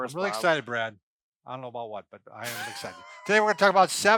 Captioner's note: laughing